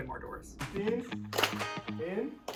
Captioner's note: clapping